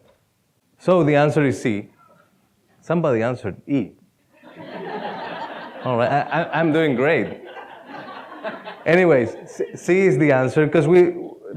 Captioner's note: laughter